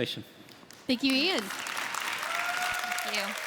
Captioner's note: audience applauding